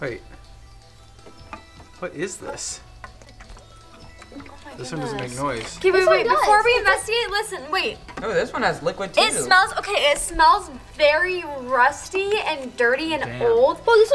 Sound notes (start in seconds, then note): 2.1 gentle jostling noise